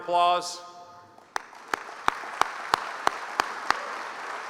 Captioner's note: applause